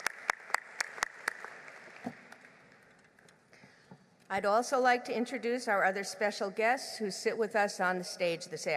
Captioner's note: applause